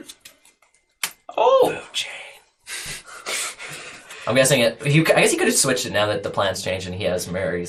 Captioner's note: normal voice